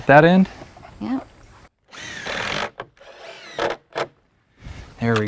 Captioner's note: drills whirring, no additional audio